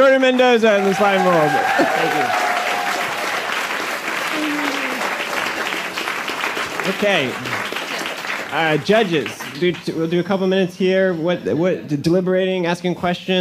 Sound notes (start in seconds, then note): 4.0 applause